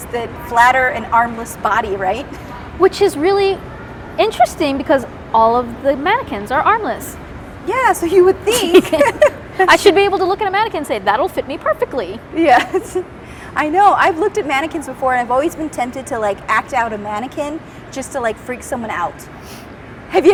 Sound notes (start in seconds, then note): 8.5 laughing; 12.9 laughing